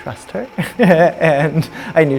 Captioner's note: light laughter